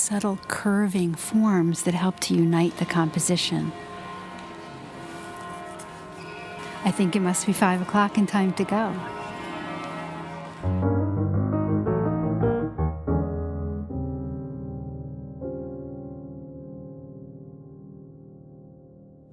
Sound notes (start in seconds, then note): 3.9 church bells ring; 10.9 piano music